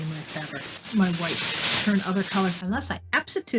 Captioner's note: plastic bag rustling